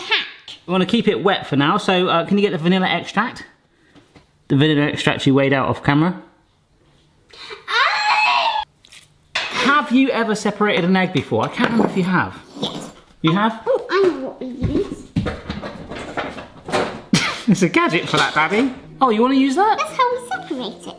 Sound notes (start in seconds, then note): 14.6 objects clattering